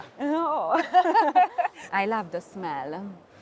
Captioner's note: laughter